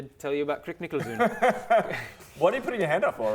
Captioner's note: laughs